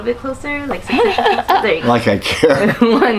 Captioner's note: laughing